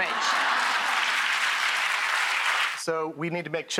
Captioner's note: audience laughter and applause